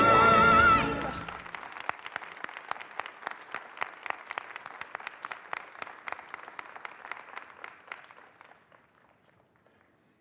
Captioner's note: applause